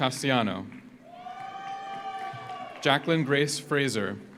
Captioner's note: audience cheers; audience applauds